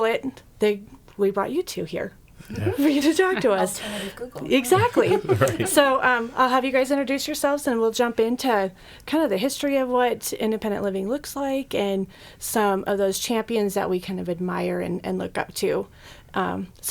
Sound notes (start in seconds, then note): 2.5 all laughing; 5.1 laughing